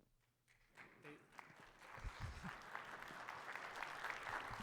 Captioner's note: audience applauds